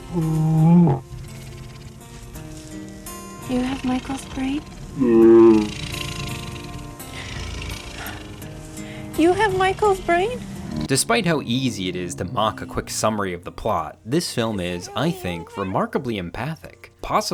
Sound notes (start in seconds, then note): 0.2 gentle music; 5.9 dinosaur grumbling